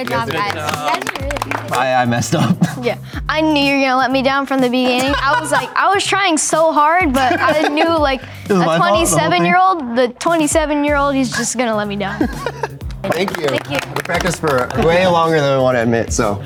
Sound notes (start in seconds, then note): 0.0 group clapping; 2.7 chuckles; 4.8 laughs; 7.0 laughs; 12.0 laughs